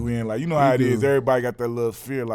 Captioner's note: none